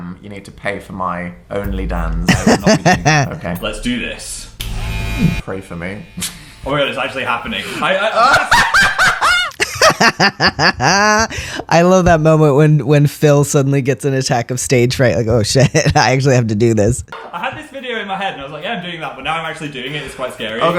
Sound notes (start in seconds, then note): 4.9 bzzz; 8.1 laughter; 8.2 hysterical laughter